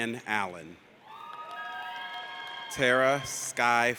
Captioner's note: audience cheers